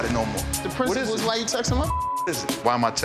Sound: beep

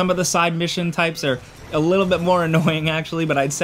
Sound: chuckling

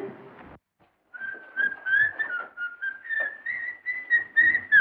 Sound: whistling

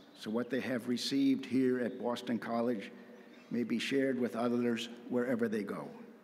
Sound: none

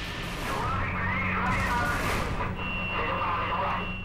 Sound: murmuring

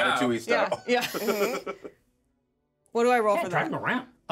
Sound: speaker laughs; chuckles

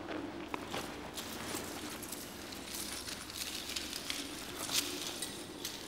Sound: wind blowing; treasure rattling

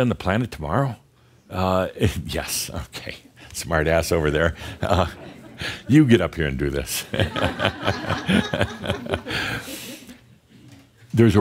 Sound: some laughter

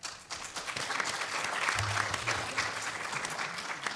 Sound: applause

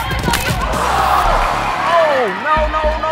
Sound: sickening crack

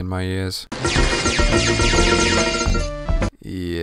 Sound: dingdingdingdingdingding

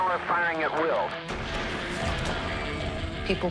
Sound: gunshot

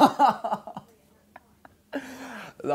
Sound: laughs

